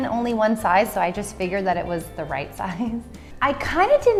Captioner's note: chuckles